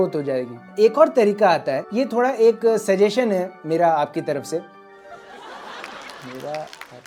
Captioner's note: soundbite of laughter